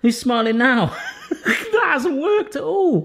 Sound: laughs

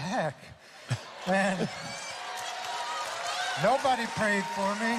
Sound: audience laughing

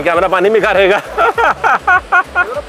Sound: laughter

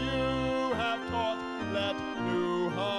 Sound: none

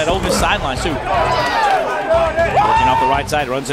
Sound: players cheer

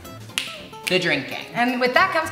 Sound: finger snaps

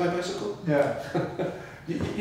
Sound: laughs

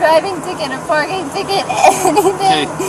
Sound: sobbing

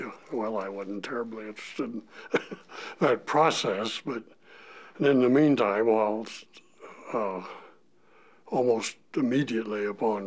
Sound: chuckle

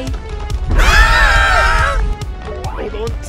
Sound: screams

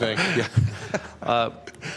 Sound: laughter

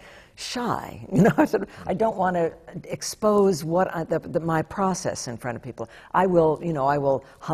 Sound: laughs

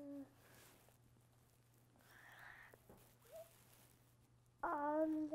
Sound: pauses for 3 seconds

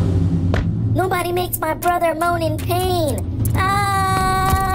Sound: screams

